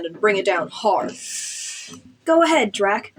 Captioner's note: sharp Inhale